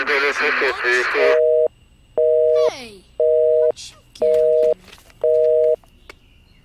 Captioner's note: phone busy line beeps